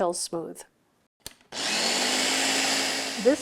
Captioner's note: blender whirs